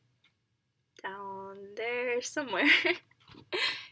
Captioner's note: back to English